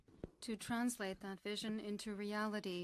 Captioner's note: speaking French